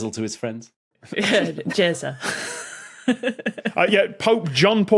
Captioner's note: group snickering